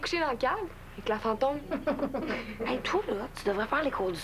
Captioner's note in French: Rires